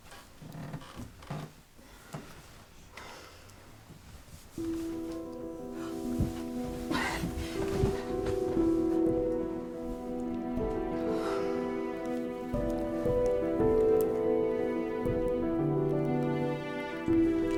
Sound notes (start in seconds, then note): 4.3 gentle music; 6.9 gasps